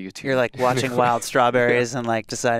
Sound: laughs

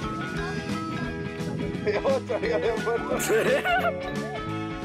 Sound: laughing

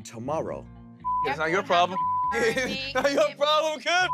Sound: beep; laughing

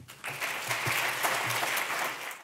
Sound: audience clapping

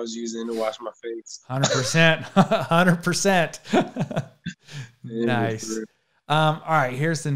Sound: laughs

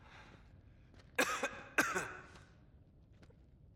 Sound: coughs

